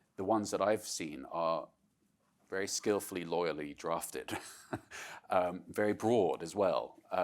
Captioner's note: laughs